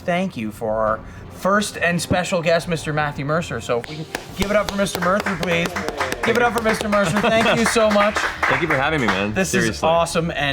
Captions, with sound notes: we have to have a huge thank you for first and special guest Mr. Matthew Mercer, so give it up for Mr. Mercer, please. Give it up for Mr. Mercer. (chuckles) Thank you so much. (applause)